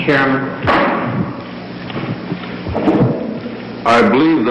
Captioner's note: gavel stricken